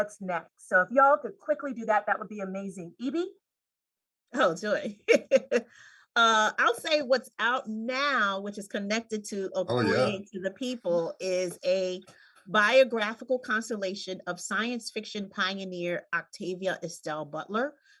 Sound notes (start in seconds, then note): 5.4 laughs